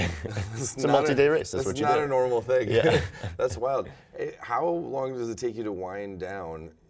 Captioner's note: laughter